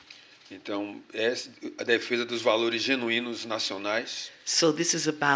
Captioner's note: speaking portuguese